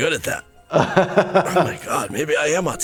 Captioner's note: laughs